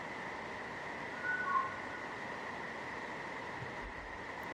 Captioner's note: creature whistles